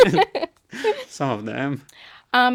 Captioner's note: both laughing